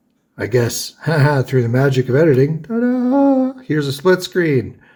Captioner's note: ha ha!